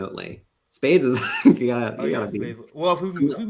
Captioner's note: laughs